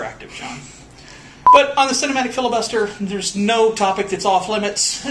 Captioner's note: beep